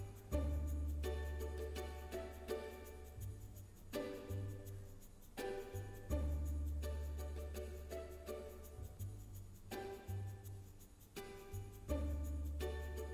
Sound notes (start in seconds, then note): none